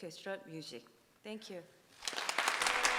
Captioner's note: audience applauding